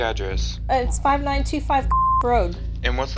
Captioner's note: beep